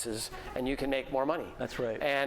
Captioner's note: laughter